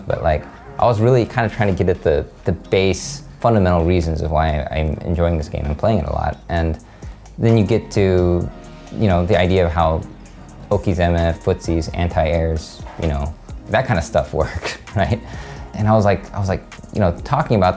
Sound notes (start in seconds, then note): 14.4 laughs